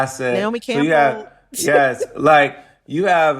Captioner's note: laughter